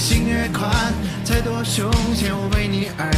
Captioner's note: mic problem